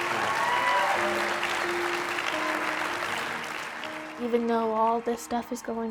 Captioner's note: audience cheers and applauds